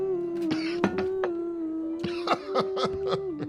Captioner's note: coughing